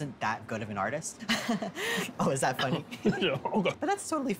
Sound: laughs

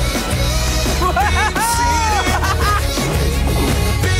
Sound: laughing

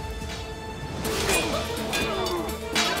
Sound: Kılıç sesleri

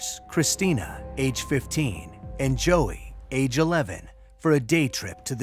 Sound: none

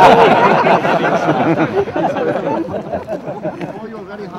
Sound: laughter

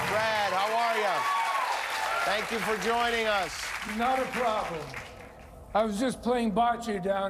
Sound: cheers and applause

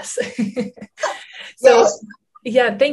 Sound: laughter

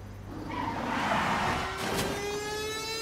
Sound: car pulls up; crash

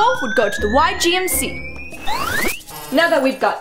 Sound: machine whistles

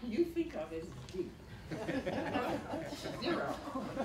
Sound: laughter

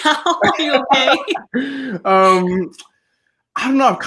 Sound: both laughing

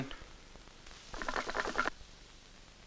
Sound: hookah gurgles

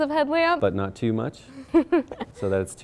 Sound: giggles

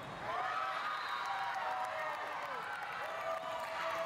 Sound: players cheering

